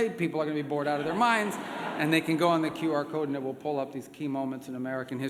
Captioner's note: laughter